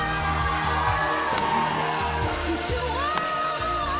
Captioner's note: cheers and applause